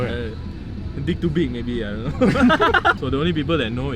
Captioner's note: laughs